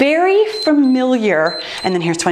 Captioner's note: timer beeps